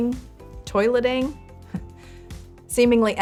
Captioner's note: chuckles